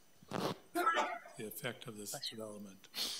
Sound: trustee sneezes

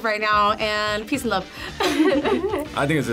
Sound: laughs

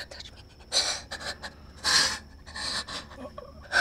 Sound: breathing heavily

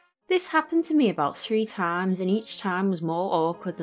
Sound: none

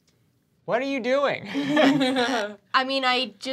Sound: laughs

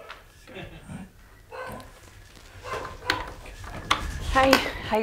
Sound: dog barking

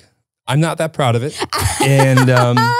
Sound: laughs

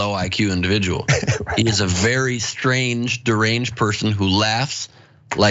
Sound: laugh

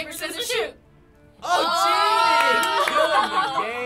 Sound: laughter

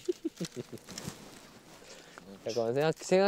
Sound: hmm... hahaha

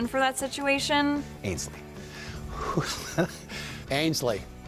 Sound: laughs

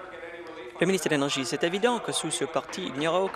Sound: applause

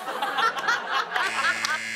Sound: laughter; buzzer

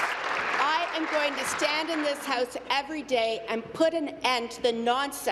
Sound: applause

